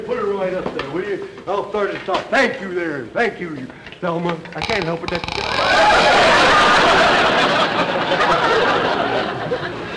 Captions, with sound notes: Bring it right here. Put it right up there, will ya? Put it right up there, will ya? I'll start this off. I'll start this off. Thank you, there. Thank you, there. Thank you. Now, I can't help it-- [ladder creaking] [audience laughter]